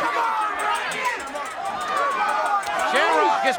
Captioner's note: crowd chattering